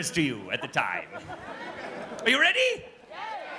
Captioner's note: audience laughs